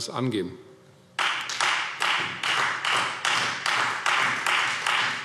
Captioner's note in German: Beifall Freie Demokraten